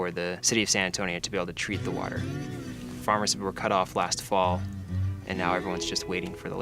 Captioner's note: none